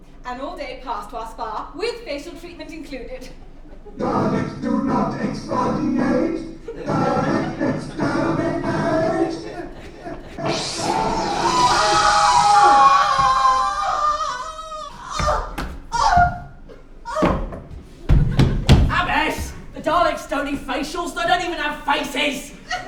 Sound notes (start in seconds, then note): 12.4 collective screams; 14.4 abbess dramatically dying noises